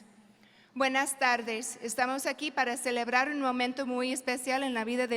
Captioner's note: speaking in foreign language